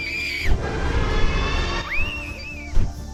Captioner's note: roar; scream